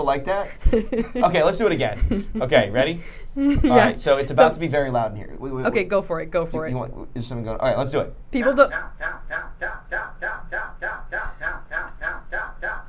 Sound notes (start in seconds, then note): 0.5 laughing; 8.6 computer repeatedly saying cow